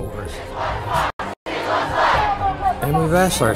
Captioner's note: crowd chanting